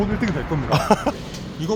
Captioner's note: hahaha